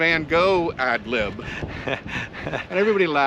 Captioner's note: laughs